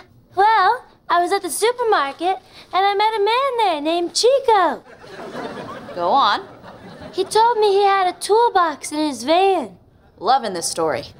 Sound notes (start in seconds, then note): 4.9 laughing